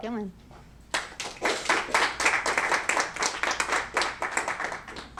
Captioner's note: applause